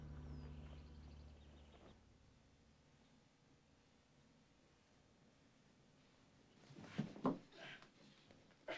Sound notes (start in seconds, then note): 6.1 panting